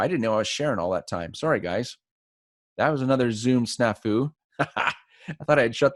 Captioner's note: laughs